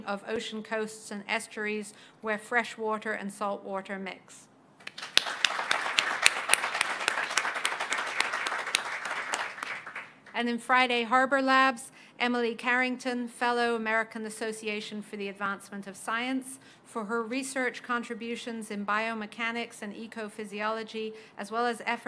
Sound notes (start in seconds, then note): 4.8 applause